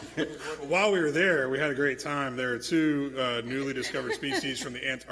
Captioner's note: laughter